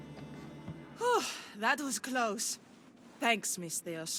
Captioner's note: exhale